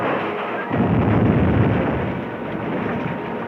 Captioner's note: metal banging; explosion booms; fire crackling